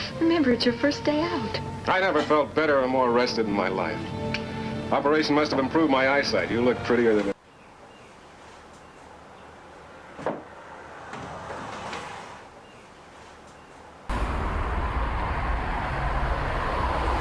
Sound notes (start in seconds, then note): 7.7 birds chirping; 14.2 traffic humming